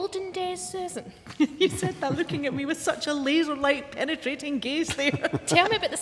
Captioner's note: laughs